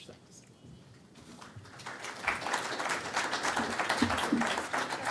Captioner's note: audience applauding